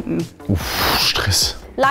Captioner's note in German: seufzte